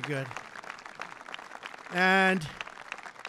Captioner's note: applause